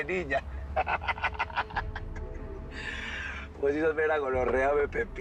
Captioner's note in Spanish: Risas